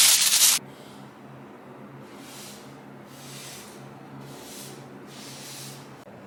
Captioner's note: light paint brush strokes